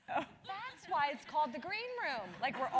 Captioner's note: laugh